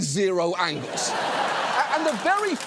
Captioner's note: studio audience laughs